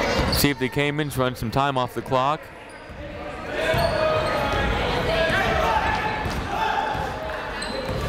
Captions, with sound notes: See if the Caimans run some time off the clock. (chatter)